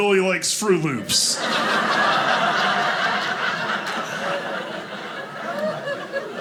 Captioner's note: audience laughing